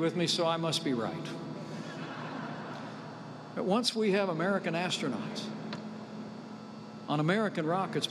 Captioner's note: laughter